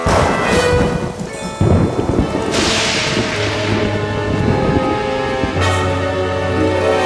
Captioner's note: thunder crashing